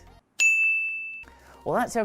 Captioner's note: bell chimes